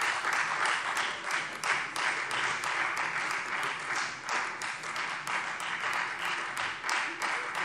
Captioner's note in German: Beifall Freie Demokraten